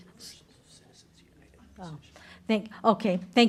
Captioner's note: whispering